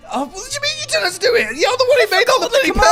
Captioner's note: stammers